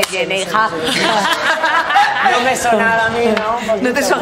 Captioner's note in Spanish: todos ríen